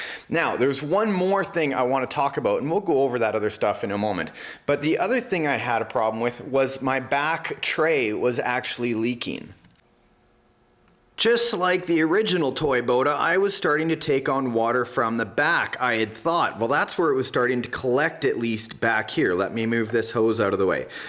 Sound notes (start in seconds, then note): none